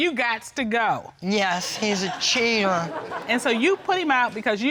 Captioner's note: audience laughing